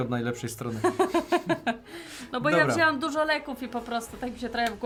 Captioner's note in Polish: śmiech